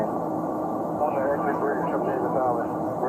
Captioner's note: radio chatter